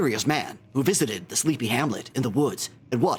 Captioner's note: mimicks clanker voice